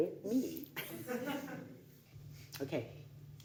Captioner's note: audience laughing